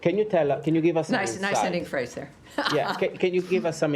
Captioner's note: laughter